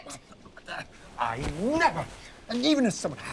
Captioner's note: stutters